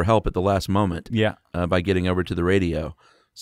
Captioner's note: voiceover